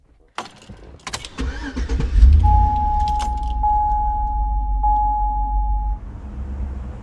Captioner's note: truck dinging; truck engine rumbles